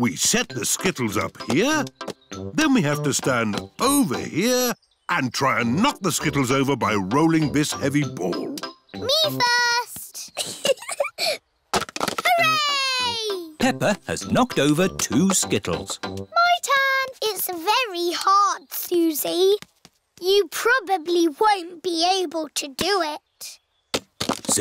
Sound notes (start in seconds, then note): 10.3 giggling